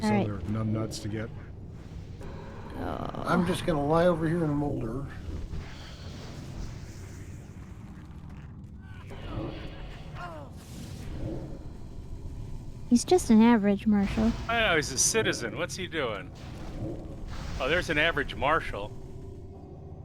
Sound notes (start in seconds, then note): 6.0 grunting